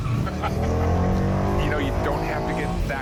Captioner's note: engine roars